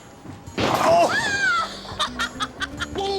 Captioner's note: laughs